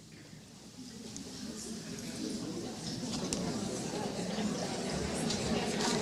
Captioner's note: chatter